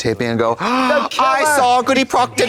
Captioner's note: beep